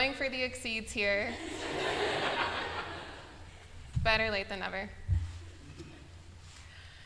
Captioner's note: laughter